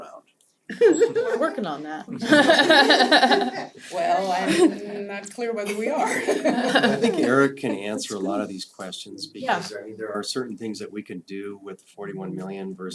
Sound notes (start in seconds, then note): 2.1 laugh